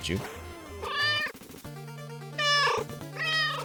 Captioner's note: meow; meow